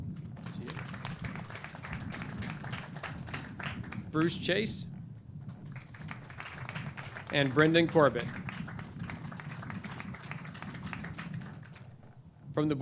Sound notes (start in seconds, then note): 0.3 clapping; 5.7 clapping